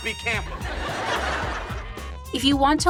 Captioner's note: audience laughs